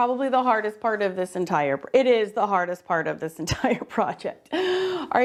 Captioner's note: laughs